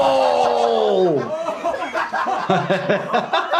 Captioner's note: Jackass crew laughing; doctor laughs